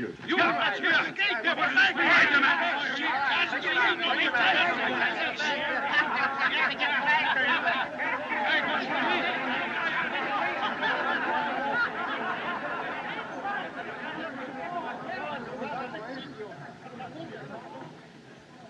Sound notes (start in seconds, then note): 2.6 all Shouting; 5.9 crowd Laughing, Chattering; 7.3 Mac, Laughing